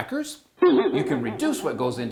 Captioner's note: boing!